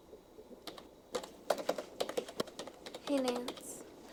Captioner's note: gentle music; keys clacking